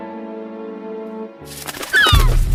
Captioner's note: laughs; wings flapping; gull squawking